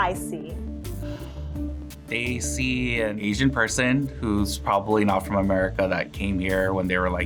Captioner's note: sighs